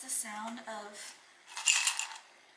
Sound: rattling

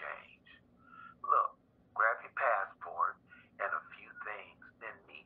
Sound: speaker phone

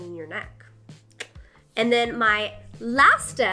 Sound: mouth clicking

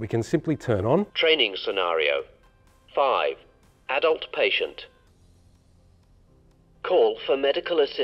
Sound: AED machine starts talking

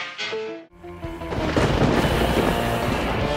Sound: suspenseful music; tense music; thunder rumbling; energetic spooky music

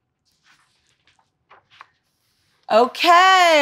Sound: book page turns

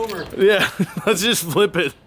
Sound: laughs

